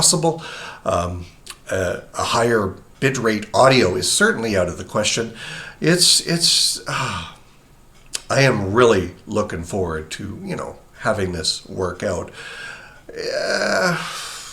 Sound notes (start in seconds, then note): 7.2 exhales; 12.7 stammers